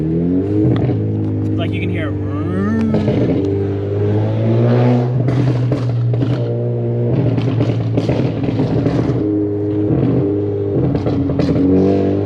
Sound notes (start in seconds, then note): 0.3 car engine revving; 4.7 car exhaust popping